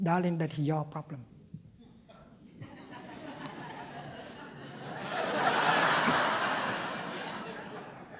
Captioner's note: laughter